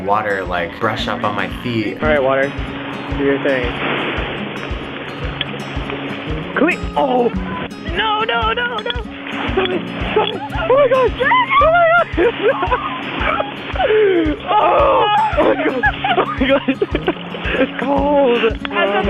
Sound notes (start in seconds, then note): 3.7 waves breaking; 12.1 both laughing; 16.4 laughing